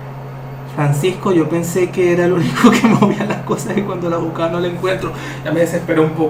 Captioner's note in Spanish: risas